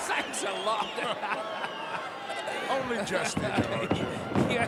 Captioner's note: laugh